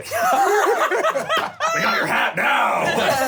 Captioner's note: laughter